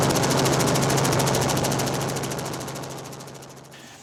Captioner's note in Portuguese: Hélice de helicóptero diminui o volume até sumir